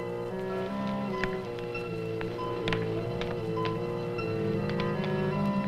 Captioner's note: suspenseful orchestral music; fire crackles